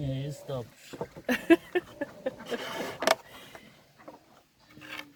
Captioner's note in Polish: śmiech